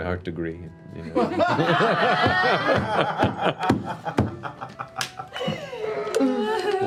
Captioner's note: laughter